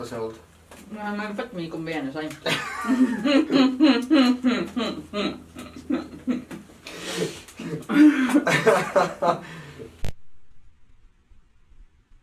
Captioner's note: laughter